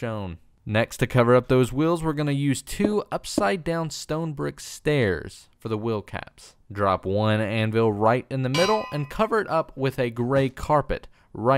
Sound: clang

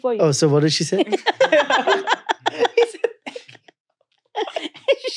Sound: all laughing

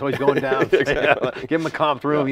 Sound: laughs

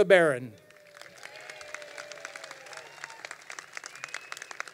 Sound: crowd applauding

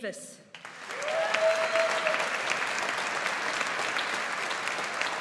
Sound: audience applauds

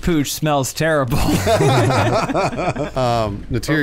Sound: good clean laughter

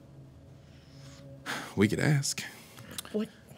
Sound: sighs

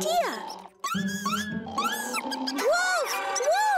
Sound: chirping

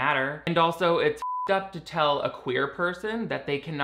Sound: beep

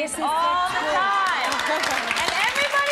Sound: audience laughs and applauds

